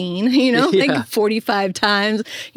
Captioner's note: chuckles